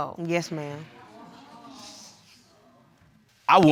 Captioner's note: audience murmuring